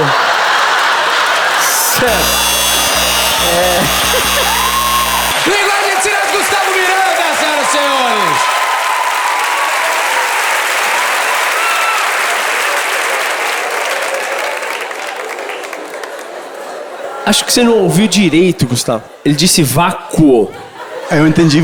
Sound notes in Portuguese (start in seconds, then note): 2.3 campainha e aplausos